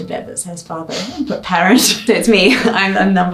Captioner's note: laughs